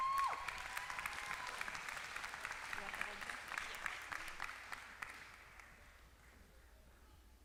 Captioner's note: applause